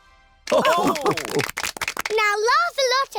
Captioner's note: all laugh